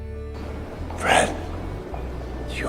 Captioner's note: voiceover